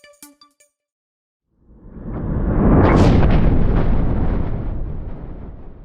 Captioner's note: thunder rumbling